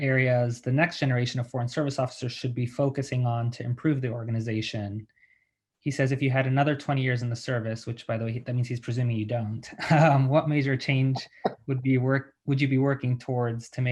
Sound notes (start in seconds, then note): 9.6 laughing